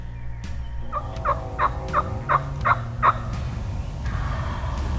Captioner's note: imitation squawking